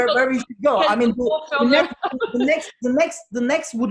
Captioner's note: laughing